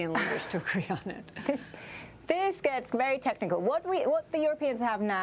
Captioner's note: laughter